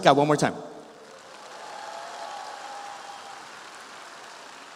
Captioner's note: audience applauding